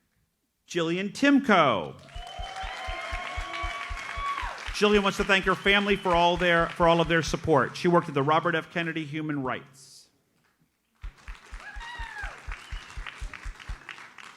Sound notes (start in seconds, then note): 1.9 audience cheers and applauds; 11.0 audience applauds